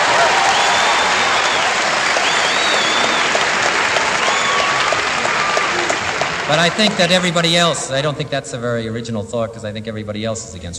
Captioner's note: applause